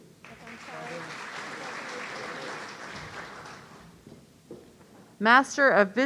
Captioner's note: audience applauding